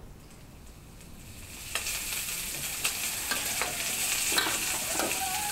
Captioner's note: sizzling